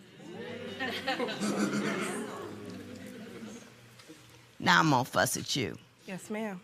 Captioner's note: murmurs, chuckling